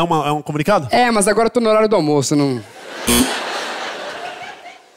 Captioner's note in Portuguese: campainha